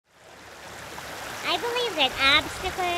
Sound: water babbling

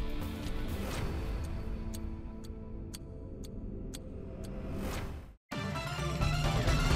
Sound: energetic music; timer ticking; energetic music

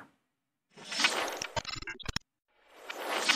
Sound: scratching

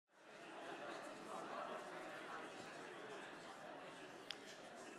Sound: audience chattering

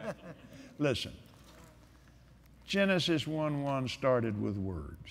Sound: laughter

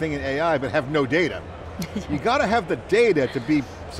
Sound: chuckles

